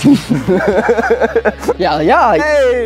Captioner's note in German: Lacht